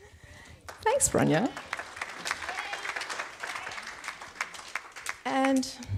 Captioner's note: audience applauds